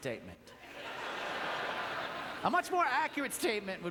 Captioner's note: audience laughter